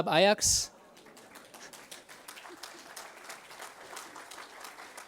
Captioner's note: audience applauds